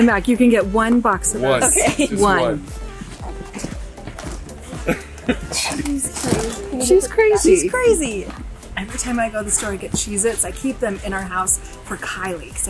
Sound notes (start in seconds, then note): 5.6 laughs